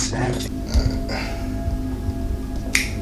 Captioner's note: sighs